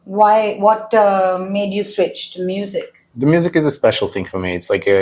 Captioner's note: none